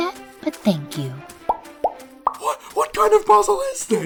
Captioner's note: popping